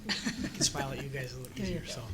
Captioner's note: laughter